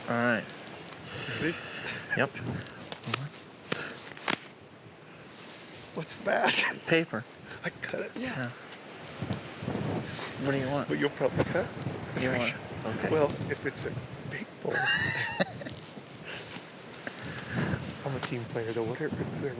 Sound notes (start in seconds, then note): 14.6 laughing